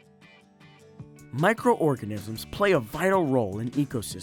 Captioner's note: upbeat music; voiceover